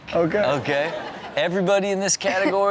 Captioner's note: audience laughs